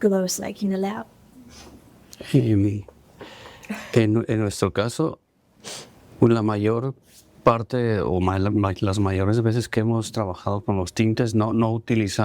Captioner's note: speaking spanish